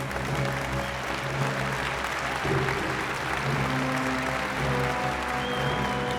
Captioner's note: audience applauding; dramatic music